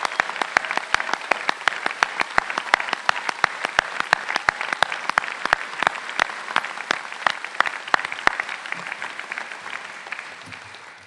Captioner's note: cheers and Applause